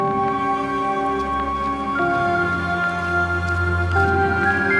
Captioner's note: footsteps and music